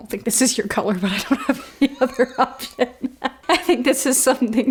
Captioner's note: laughs